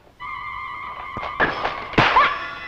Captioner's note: vintage music; shattering; slapping